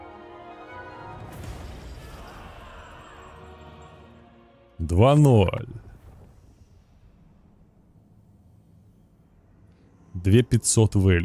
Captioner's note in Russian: крик